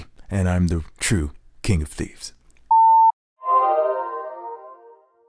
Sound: beep

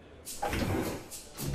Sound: door opens

